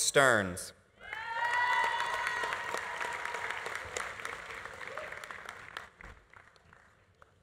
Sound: audience cheering; audience applauding

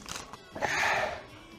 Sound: hard Exhale

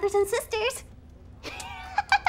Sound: laughter

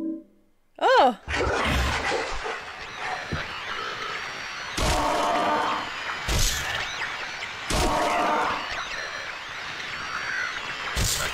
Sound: loud monster sound and radio static

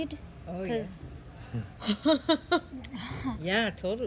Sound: laughs

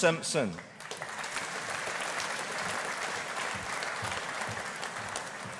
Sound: audience applauding

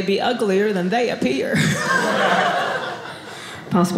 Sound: audience laughing

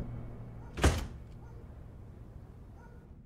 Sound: dogs barking

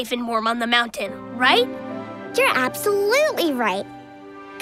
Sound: none

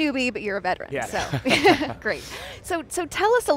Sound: laughing

